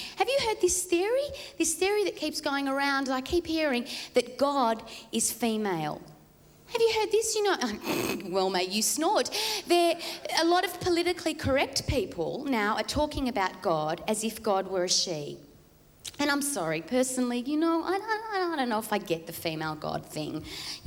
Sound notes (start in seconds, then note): 7.8 snorts